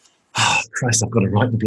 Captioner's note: sighing